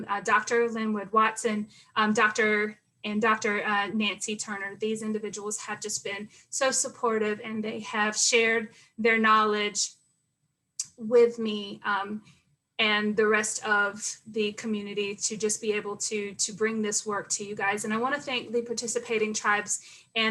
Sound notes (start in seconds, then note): none